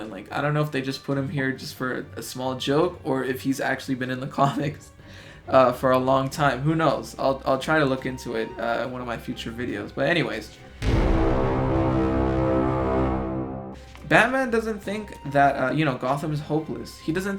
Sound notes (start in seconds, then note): 4.4 chuckles; 10.8 duuuuuum